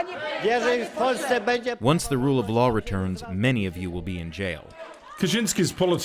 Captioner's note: crowd chanting in polish